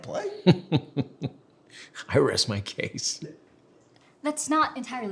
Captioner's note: chuckles